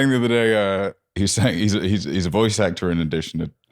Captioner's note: stuttering